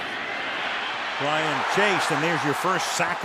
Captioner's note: cheering